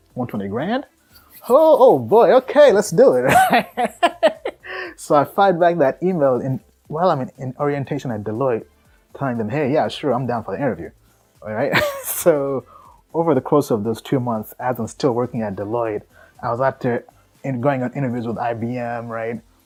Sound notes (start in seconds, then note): 3.2 laughing